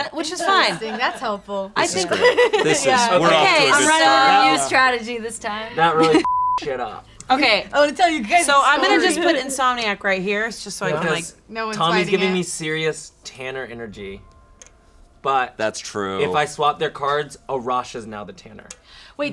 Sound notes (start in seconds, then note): 6.2 beep